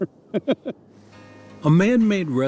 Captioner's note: laughs